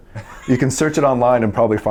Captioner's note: interviewer laughs